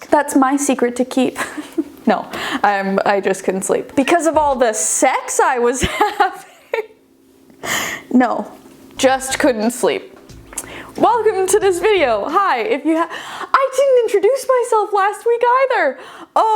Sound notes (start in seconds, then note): 7.2 laughing